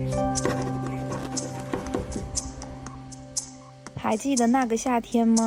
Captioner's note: sample 2: The sound of answering exam papers